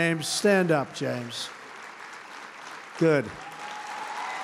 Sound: applause

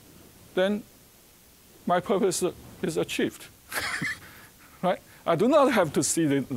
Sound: chuckling

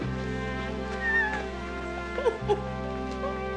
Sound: laughter

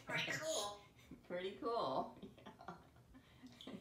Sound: laughing

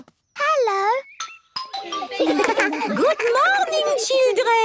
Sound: laughter

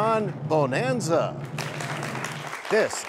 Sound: cheers and applause

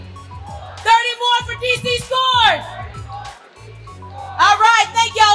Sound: crowd

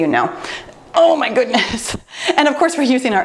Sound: laughs

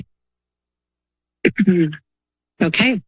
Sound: clears throat

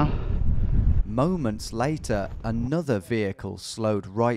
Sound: voiceover

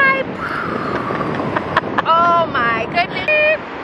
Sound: laughing

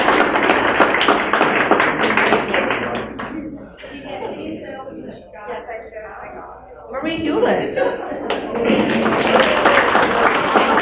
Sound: applause

